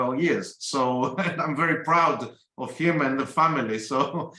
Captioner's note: laugh